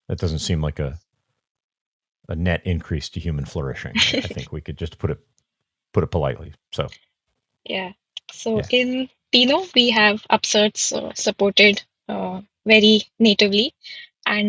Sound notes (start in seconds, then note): 4.0 chuckling